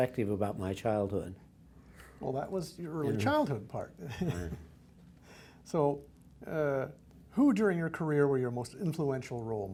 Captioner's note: laughs